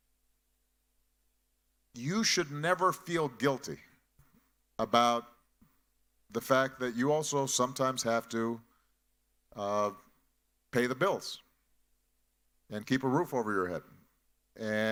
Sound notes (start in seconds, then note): none